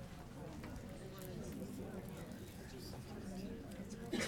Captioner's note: people chattering